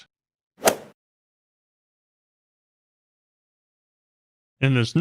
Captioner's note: golf swing sound effect